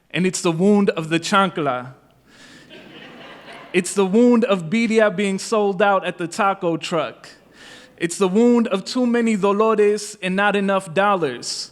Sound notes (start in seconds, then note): 2.6 laughter